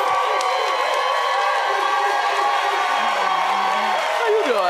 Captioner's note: audience cheering